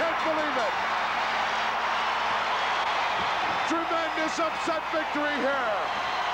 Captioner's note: applause